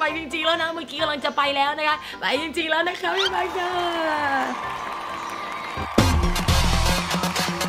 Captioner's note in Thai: ปรบมือ